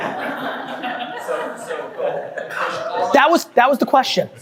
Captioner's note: group laughing